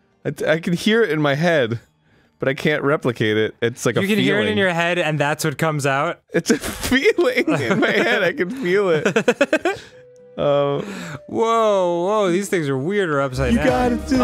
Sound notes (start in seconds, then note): 6.4 laughing